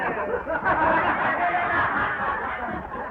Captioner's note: laughter